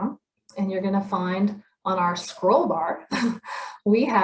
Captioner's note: chuckles